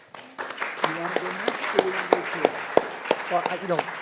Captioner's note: audience applauding